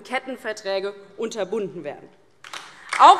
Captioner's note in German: Beifall DIE LINKE